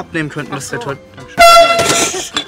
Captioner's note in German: Laute Tröte